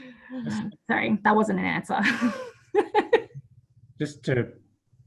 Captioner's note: laughs